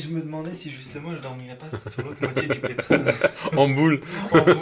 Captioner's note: laughs